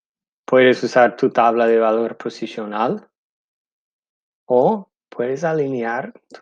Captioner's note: speaking in foreign language